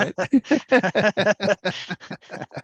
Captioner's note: laughter